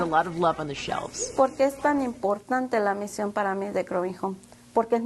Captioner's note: speaking Spanish